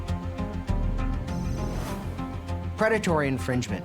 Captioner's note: suspenseful music; computer calculating sound effect